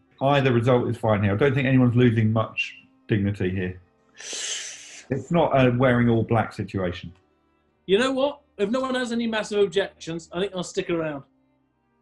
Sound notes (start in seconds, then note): 4.2 inhales